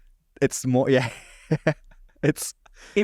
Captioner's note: chuckling